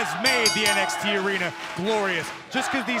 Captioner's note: bell ringing